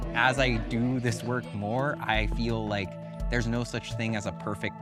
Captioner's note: none